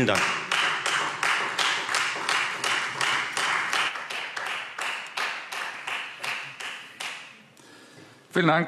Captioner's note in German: Beifall Freie Demokraten